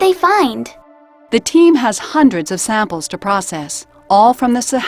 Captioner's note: voiceover